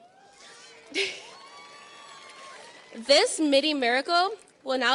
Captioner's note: audience cheers and applauds